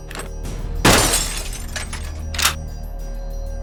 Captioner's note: glass shattering; gun thuds; gun snaps